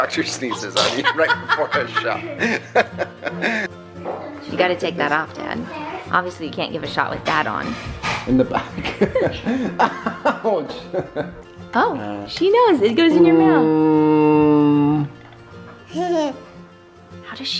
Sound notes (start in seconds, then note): 0.4 mother laughs; 8.6 laughs; 13.2 father hums; 15.8 toddler laughs